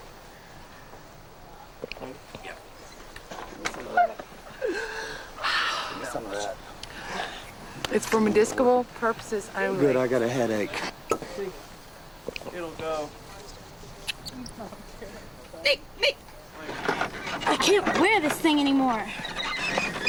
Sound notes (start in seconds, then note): 4.5 squeals and sighs; 16.5 squeaks